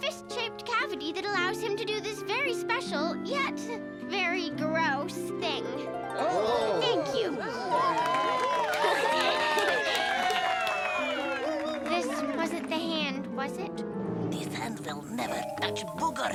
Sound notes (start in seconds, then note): 6.1 audience oohing; 6.1 audience cheering; 8.8 Tabitha giggling